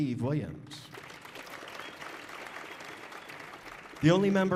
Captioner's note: audience applauding